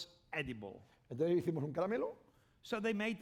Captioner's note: speaking spanish